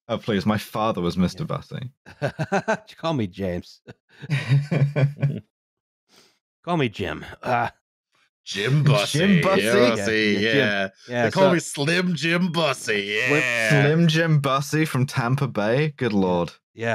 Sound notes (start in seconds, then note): 2.1 laughs; 4.2 laughter